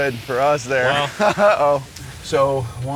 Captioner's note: laughs